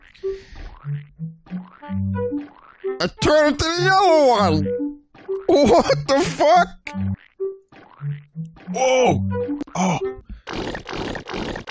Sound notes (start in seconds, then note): 5.3 voice wavering